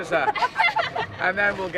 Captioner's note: laughing